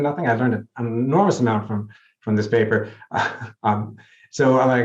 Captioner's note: chuckles